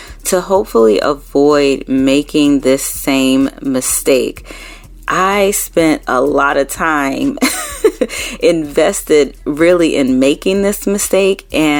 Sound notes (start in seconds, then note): 7.4 laughing